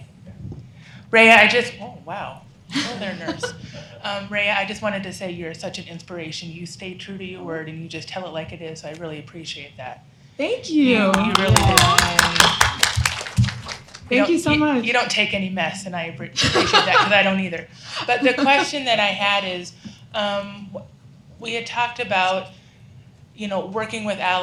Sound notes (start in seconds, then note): 11.1 applause